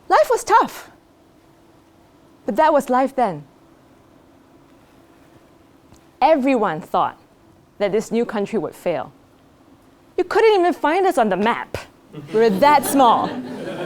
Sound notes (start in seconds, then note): 12.1 laugh